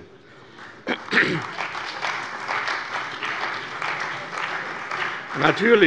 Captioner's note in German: Beifall bei der CDU und dem BÜNDNIS 90/DIE GRÜNEN